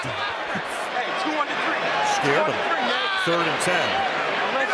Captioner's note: laughs